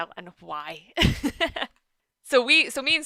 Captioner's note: laughs